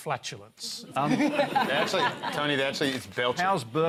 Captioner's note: laughter